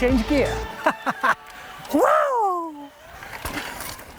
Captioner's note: laughs